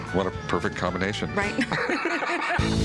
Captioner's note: laughing; electronic music